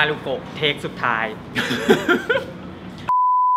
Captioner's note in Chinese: 大笑